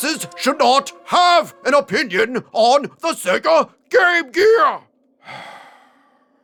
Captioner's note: sigh